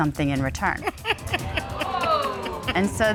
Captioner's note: Judge Dana Laughs